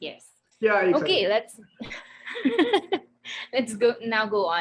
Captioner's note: laughing